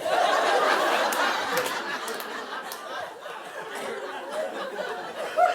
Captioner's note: audience laughing